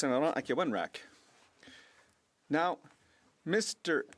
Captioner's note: speaking French